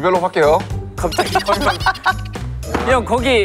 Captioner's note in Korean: ㅋㅋ